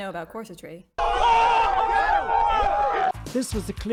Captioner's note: crowd gasps